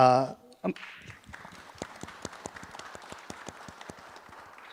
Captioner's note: audience applauding